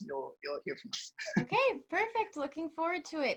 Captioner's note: chuckles